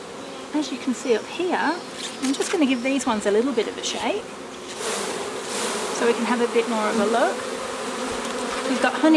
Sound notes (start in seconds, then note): 4.5 rustling